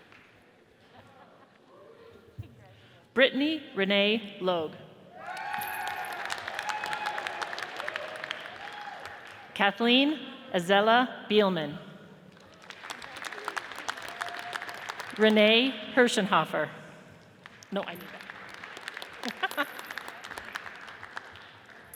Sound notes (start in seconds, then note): 5.2 audience cheers and applauds; 12.4 audience applauds; 17.9 murmuring and laughing